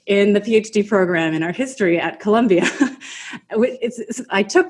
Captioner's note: laughs